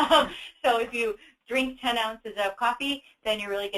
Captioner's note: chuckles